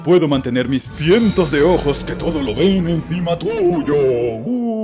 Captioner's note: dramatic voice